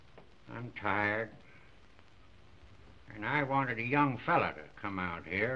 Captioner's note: none